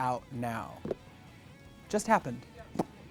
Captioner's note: pops lips